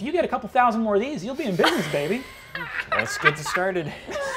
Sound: laughing

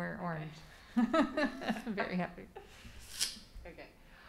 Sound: laughs

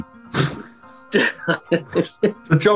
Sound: laughing

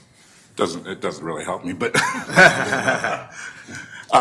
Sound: laughs

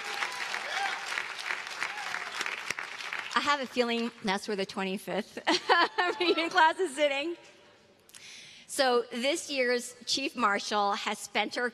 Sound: cheers and applause

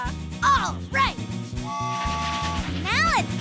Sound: train whistling

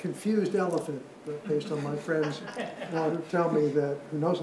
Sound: audience laughs

